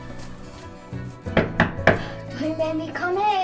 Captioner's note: gentle orchestral music continues; hand knocking on door